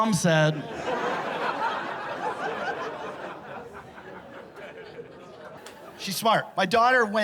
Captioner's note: laughter